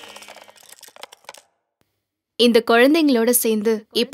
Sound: clapping sounds

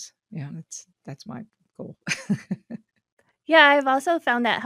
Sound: chuckles

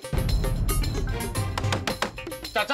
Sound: knocks on the door

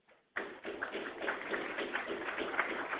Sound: applause

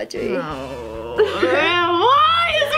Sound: groans

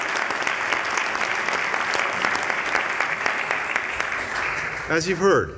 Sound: cheers

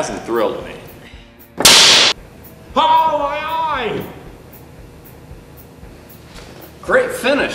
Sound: hissing sound

